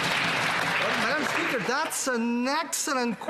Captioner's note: applause